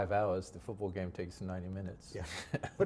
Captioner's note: chuckles